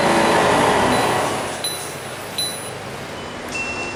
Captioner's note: DOOR CLOSING chime; Scania L113CRL ELBO door closing